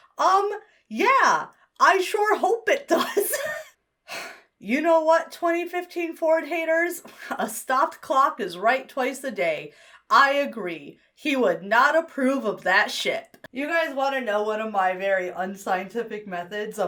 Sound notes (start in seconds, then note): 4.1 sighs; 4.1 wheezes